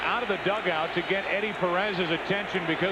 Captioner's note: crowd booing